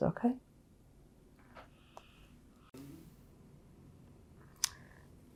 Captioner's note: pauses 12 seconds